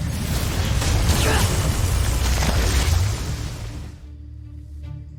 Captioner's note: sparkling whoosh; powerful blast-crackle; grunts; tense music playing